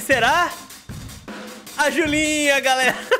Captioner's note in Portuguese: risos